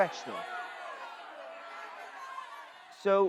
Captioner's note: booing and shouting continuing